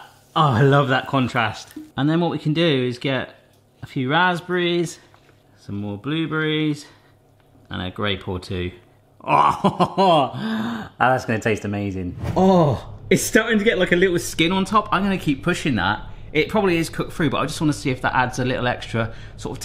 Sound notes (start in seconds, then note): 9.2 laughs